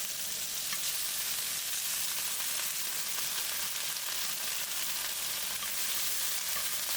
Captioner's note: sizzle sizzle